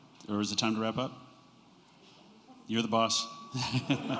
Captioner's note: laughter